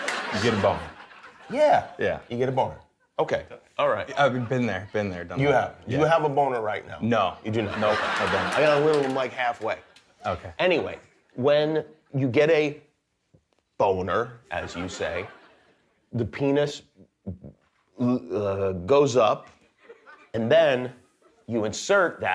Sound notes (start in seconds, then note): 4.1 laughter